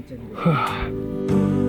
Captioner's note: background music; sigh